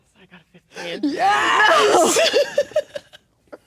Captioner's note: laughing